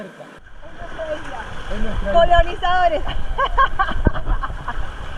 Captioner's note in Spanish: risas